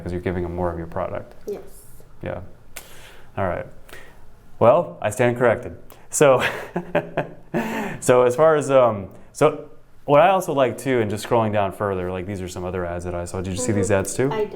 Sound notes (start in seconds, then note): 6.4 chuckling